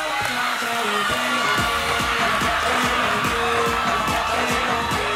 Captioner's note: audience cheering